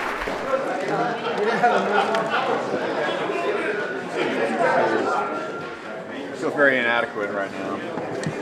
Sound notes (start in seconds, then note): 1.5 laughter